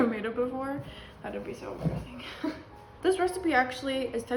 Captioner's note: laughs